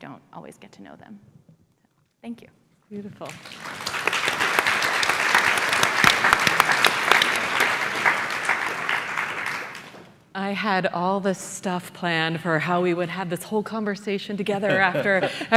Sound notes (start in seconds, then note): 6.0 applause